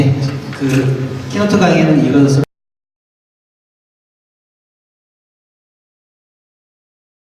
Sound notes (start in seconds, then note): 1.3 speaks in foreign language; 1.3 voiceover